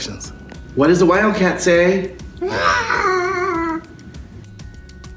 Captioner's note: roars